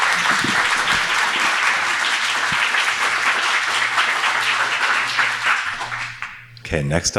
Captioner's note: audience applauds